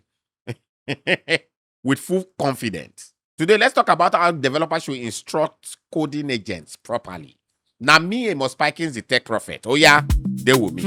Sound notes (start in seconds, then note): 0.9 laughs